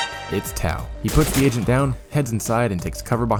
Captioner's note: gunfire